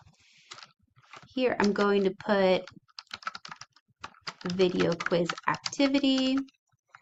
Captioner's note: typing